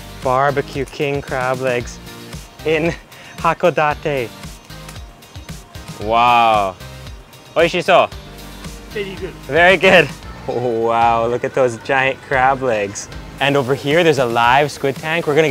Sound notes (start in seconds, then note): 4.4 lively music; 7.7 speaks in foreign language